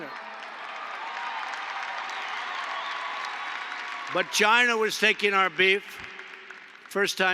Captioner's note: applause